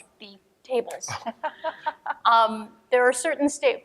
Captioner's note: laughing